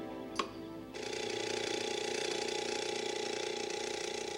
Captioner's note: alarm buzzing